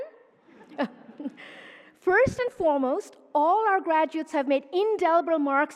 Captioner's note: laughs